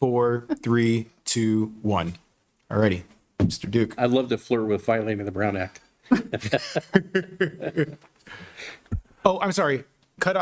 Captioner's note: laughter